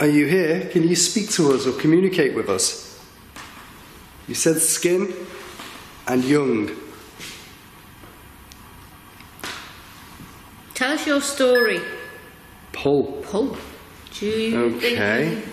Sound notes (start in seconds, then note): 11.5 beeping